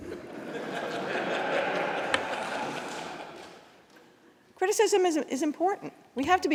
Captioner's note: laughter